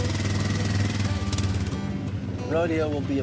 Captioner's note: engine roaring